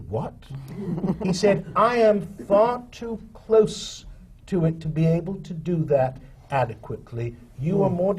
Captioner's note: laughter